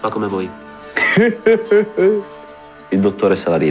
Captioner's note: laughs